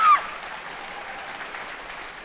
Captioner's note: screams